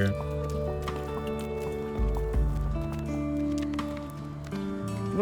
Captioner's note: horse hooves clopping